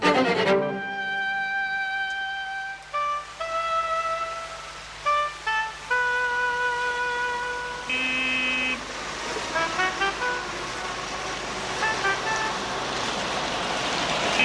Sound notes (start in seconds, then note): 7.2 horn honking